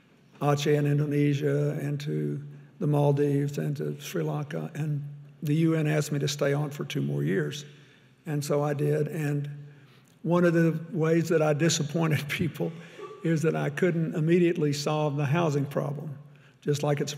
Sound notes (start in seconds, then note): 13.0 chuckles